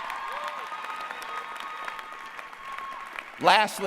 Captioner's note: applause